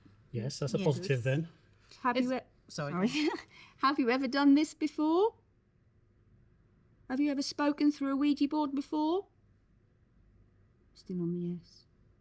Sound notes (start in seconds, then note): 3.0 giggling